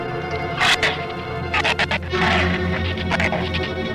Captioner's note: shrew snarls